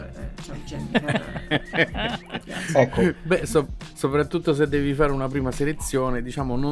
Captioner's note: laughs